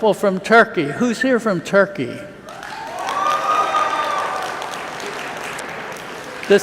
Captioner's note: cheers